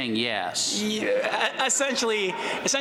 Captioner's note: laughter